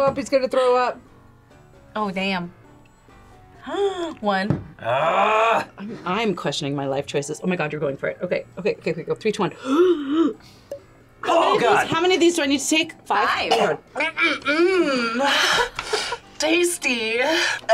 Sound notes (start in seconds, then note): 3.6 gasps